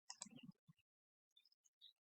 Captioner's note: silence